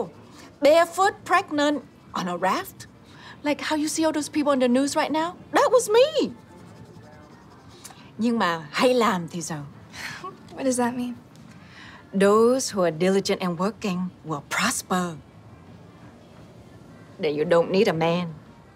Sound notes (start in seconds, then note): 7.4 speaking Vietnamese; 10.1 chuckles